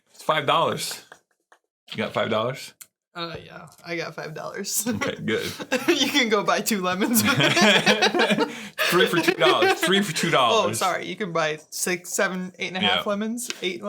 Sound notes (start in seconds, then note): 4.8 laughing